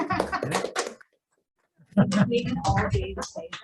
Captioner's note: all cheering and laughing